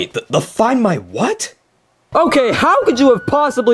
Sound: sirens wailing

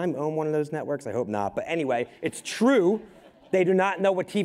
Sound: crowd laughing

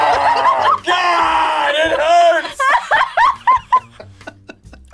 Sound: group laughs

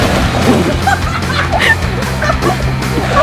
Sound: laughing

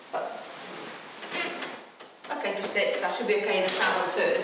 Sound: chair squeaking

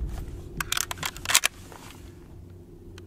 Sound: ammo reloading

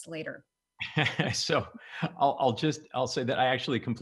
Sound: laughs

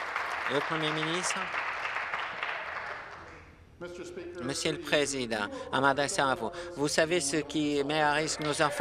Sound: applause

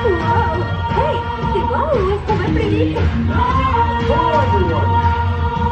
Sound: speaking in French

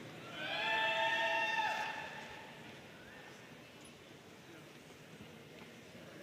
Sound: audience cheering and applauding

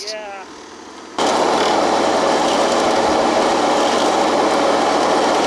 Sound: tractor engine runs

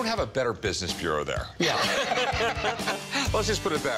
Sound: laughs

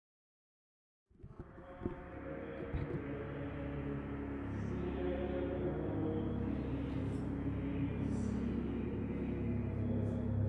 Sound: church background noise

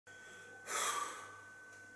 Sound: sighs

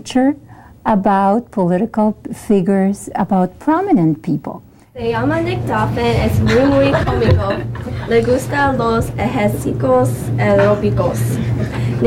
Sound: students speaking Spanish

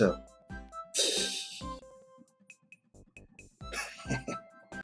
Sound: laughs

